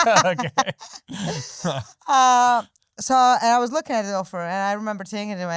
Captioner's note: laughing